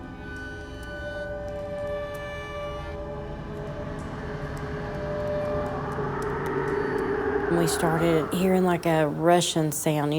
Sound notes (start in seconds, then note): 5.1 air rushing